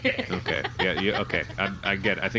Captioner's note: background laughter